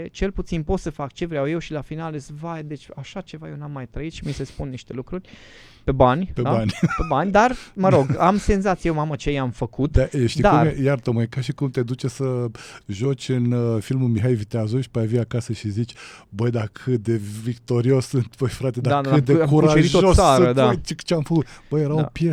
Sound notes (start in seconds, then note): 6.5 laughter